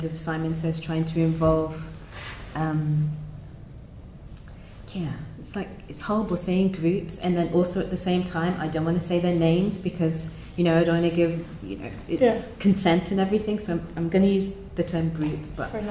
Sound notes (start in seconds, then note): none